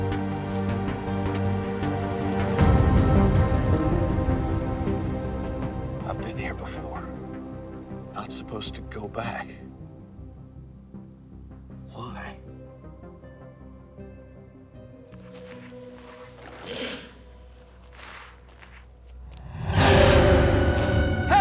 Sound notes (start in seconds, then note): 0.2 dramatic music continues; 13.2 eerie music; 16.9 footsteps shuffling; 19.8 intense music